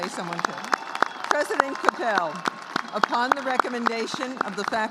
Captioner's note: applause